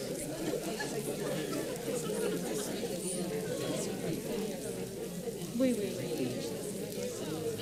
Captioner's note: paper crinkling and audience chattering